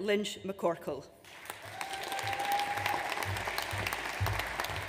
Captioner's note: audience applauds